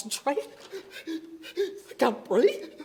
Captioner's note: hyperventilating